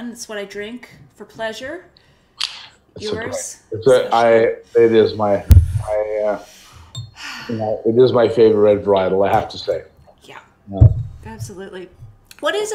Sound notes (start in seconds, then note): 7.2 sighing